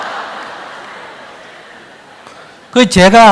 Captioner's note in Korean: 청중 웃음